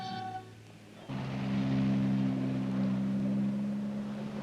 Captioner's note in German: Der Motor des Autos startet